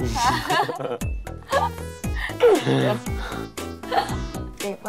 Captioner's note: laugh